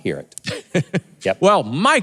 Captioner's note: laughs